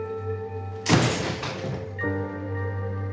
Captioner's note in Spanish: Portazo